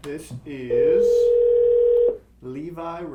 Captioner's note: phone ringing